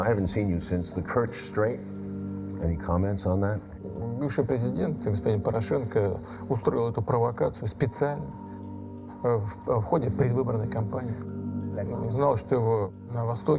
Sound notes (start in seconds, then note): 4.4 speaking foreign language